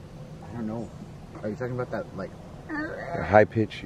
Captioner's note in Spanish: sonido gutural